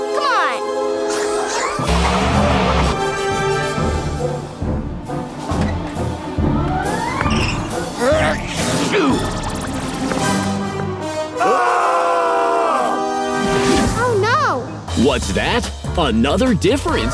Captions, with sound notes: Come on! [sneezing] [screaming] Oh no! What's that? Another difference?